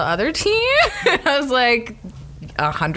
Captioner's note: laughs